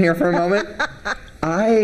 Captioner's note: laughing